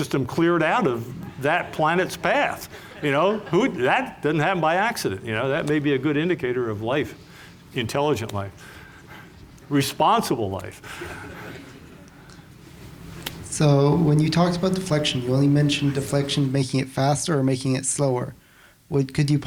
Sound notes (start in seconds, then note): 10.9 laughter